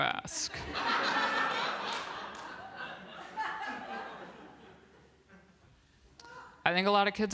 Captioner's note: laughter